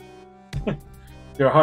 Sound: chuckles

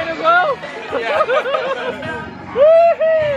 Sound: laughing

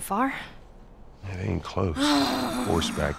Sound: groans

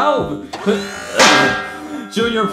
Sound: grunting; metal thuds

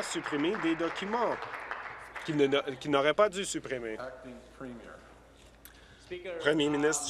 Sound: applause

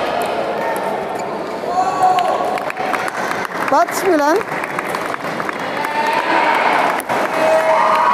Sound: applause

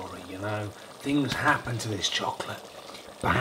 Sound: whispers

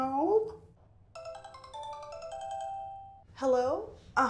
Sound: ringtone

